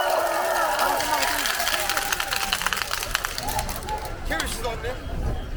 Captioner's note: applause